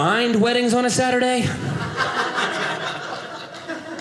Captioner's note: audience laughing